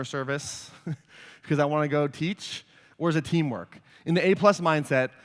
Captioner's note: laughs